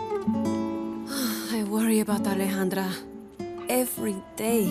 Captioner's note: sigh